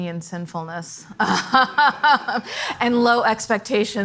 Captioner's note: laughs